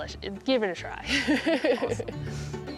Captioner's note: laughter